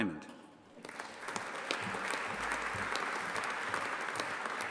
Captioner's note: audience applauding